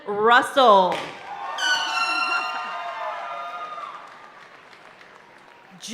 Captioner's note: party horn blaring